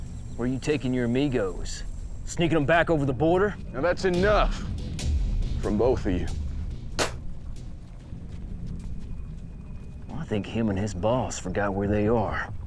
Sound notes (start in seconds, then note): 7.0 spits